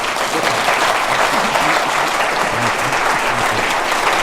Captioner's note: audience applauds